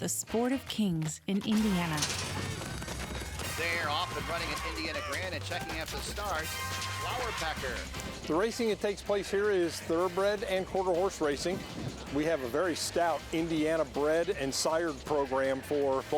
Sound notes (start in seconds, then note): 2.8 hooves pounding